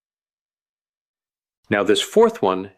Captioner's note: pause